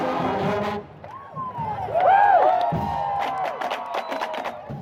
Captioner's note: cheering